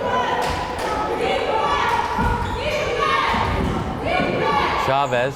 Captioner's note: crowd chanting defense